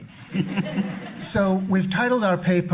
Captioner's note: audience laughing